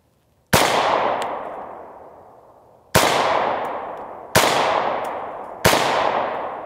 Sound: gun shots

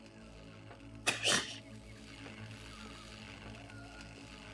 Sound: snrks

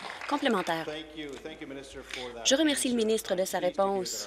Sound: applause

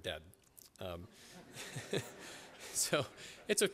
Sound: laughter

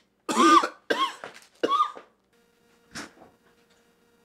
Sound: Cathelaya coughing

